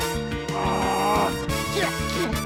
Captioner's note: strains; grunts